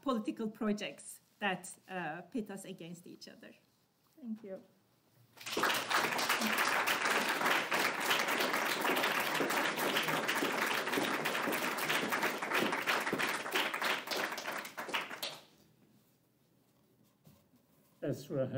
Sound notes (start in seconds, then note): 9.4 applause